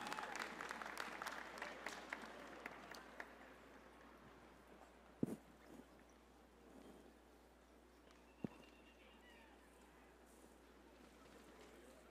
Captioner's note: applause